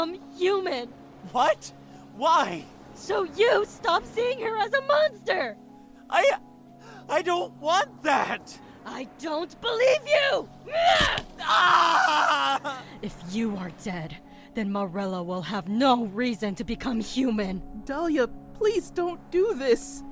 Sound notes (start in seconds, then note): 10.7 screams; 10.7 screams in pain